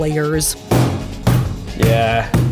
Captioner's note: slamming tray